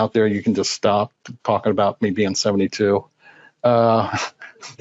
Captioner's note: laughs